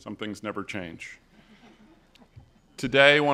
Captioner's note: audience laughs